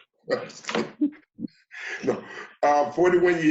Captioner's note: laughs